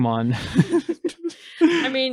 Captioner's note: laughs